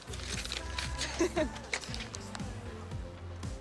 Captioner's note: laughs